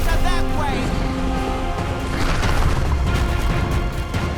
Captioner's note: dragon growling; dramatic music